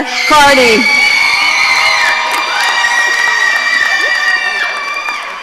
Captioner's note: audience cheering